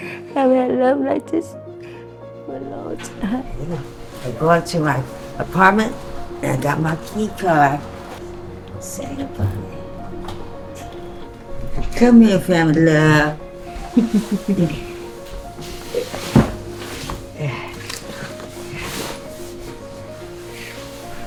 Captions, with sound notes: I haven't had love like this for a long time. I'll go into my apartment, and I got my key card. Say goodbye to tent. Come here, family love. (chuckling) (sighing)